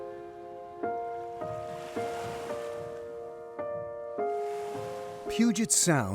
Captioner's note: waves rushing